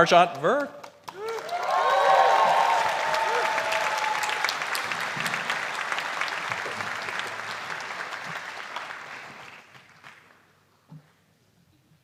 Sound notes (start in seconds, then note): 0.1 applause